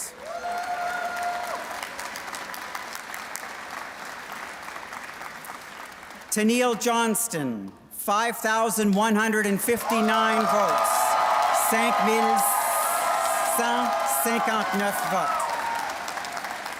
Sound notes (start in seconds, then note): 3.8 applause; 14.0 cheers and Applause